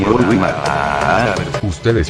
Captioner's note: screams